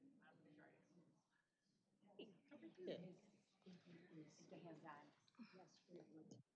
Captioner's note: indistinct chatter